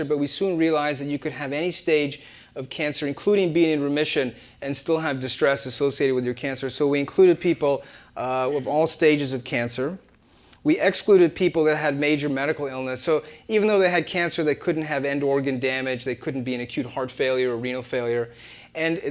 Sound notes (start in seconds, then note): none